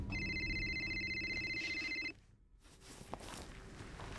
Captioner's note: phone ringing